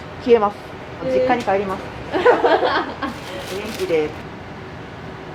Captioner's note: laughter